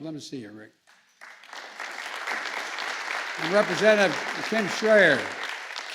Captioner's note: applause